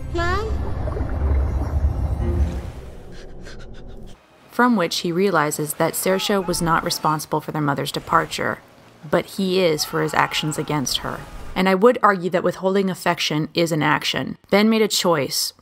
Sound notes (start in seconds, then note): 3.1 whimper